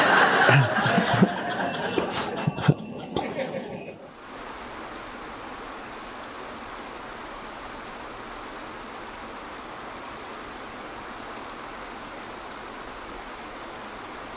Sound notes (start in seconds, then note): 0.0 audience laughing; 4.0 water streaming